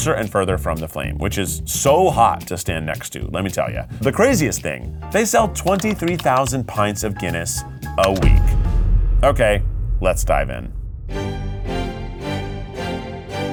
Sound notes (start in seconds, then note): 8.2 graphics clicking; 11.4 lively music